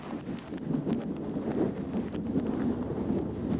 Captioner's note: wind roaring